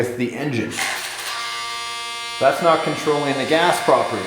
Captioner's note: robotic grinding